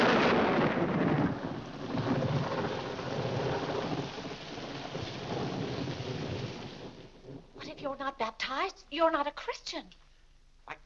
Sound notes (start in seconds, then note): 0.0 loud thunder; 1.6 rain falling